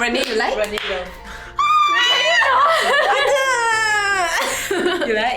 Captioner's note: screeeems